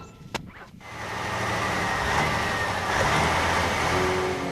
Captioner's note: engine Running